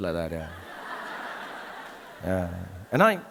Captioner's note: audience laughing